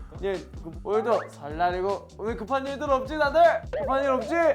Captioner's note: excited